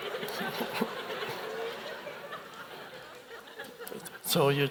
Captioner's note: Eckhart chuckles